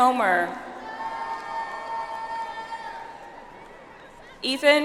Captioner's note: audience applauds